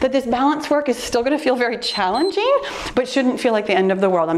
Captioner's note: timer beeps